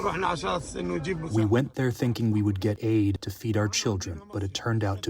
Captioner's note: through translator